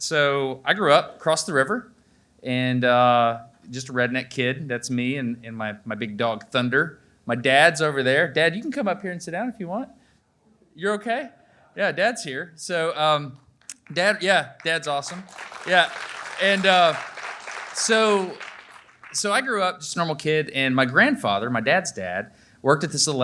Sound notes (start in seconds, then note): 14.6 audience applaudes